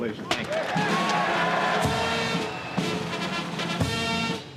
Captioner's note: cheering and applause